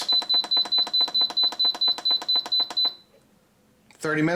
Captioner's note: Instant Pot beeps